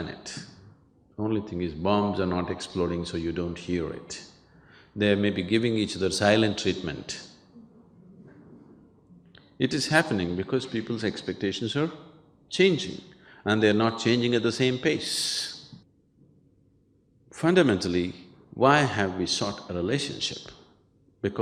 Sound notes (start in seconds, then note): 7.6 participants Laugh